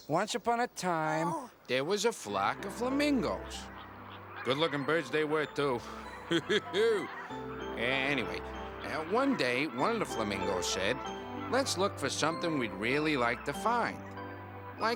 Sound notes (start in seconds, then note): 6.4 Armstrong laughing